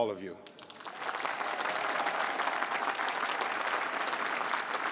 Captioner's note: applause